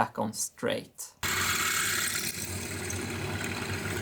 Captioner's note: drilling